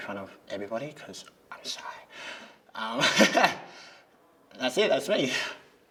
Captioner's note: whispering; laughs